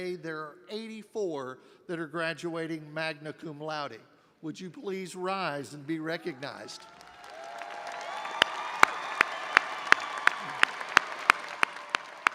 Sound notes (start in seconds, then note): 6.7 audience applauding and cheering; 8.7 clapping